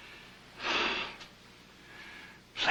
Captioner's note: sigh